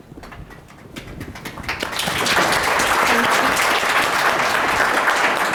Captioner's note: audience applause